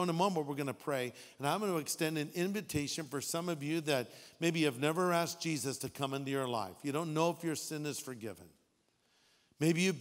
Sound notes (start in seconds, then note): none